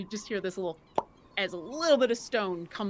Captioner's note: mimics popping